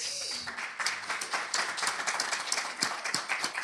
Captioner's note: applause